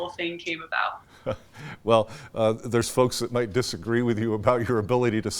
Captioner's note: chuckles